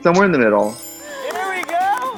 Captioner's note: chimes